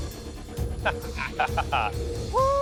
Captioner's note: laughter